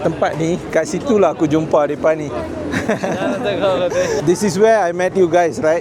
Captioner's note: laugh